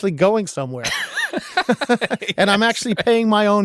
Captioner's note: both laughing